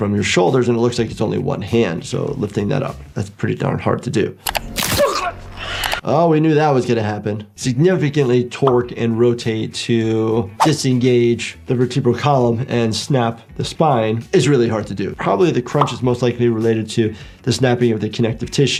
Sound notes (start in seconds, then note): 4.4 mouse clicking; 4.5 bones crunching; 4.8 victim choking